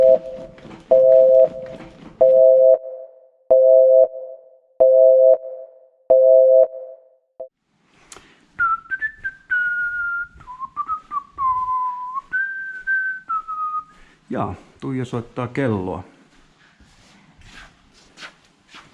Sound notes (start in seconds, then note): 8.6 carefree whistling